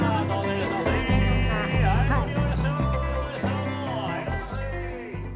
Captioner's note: people talking in background